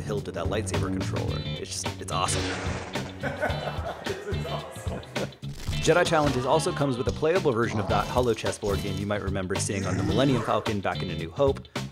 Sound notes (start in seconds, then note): 3.2 laughing